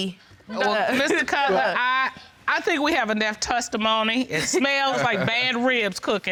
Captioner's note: laughter